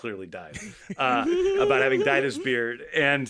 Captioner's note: laughing